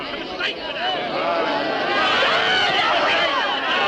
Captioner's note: crowd jeers